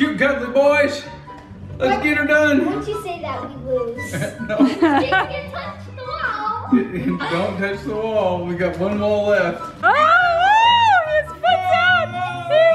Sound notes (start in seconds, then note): 4.0 laughs